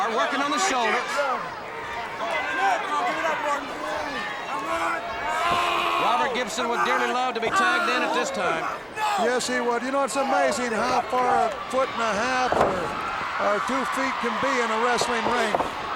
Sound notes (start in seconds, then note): 2.4 wrestlers chattering